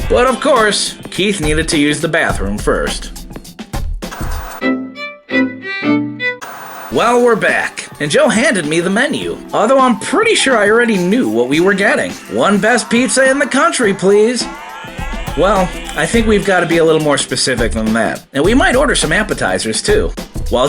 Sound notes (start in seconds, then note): 4.7 soft music; 6.4 TV Static